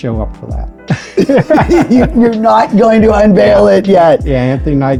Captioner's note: laughs